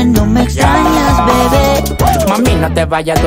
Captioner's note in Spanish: ¡wuh!